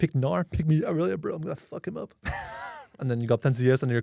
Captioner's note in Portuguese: risos